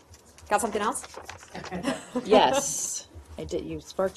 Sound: laughter

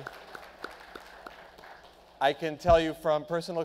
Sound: clapping

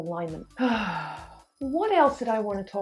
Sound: sighs

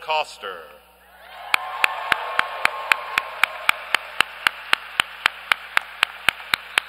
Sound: applause

